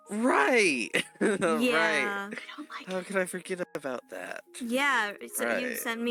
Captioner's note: giggle